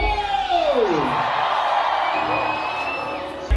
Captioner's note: crowd roars